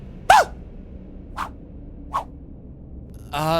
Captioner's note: fwhuip, but twice